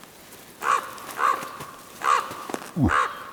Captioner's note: raven croaking